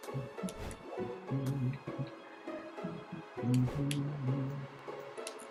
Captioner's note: humming along